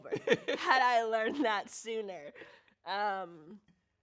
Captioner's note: laughs